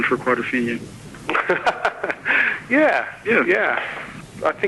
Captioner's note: laughing